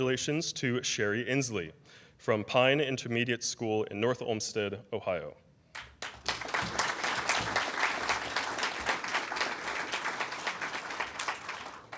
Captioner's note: applause